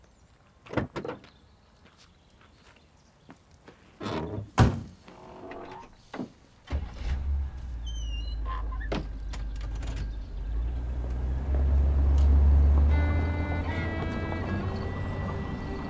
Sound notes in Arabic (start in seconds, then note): 6.8 تبدأ السيارة; 11.6 موسيقى هادئة